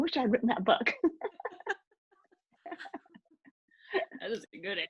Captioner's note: laughing